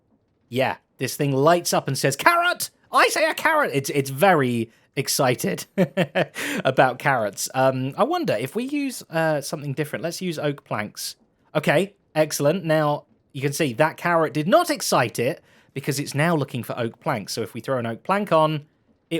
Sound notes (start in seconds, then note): 5.6 laughs